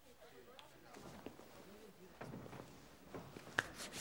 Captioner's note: students murmuring; hands brushing